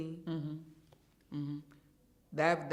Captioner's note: hums in agreement